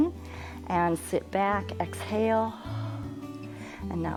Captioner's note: exhales